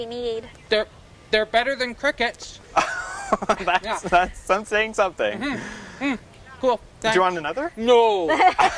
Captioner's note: laughs